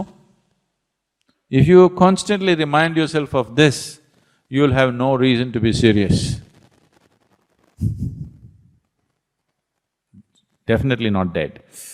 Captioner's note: laughs